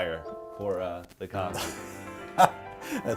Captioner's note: laughs